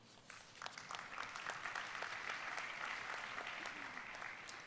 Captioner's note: audience applauding